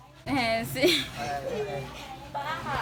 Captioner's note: laughing